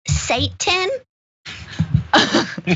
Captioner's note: laugh